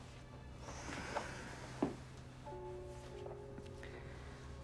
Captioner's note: sighs